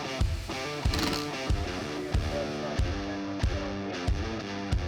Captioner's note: tool rasping